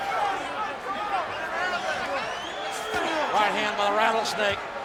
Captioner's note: crowd chattering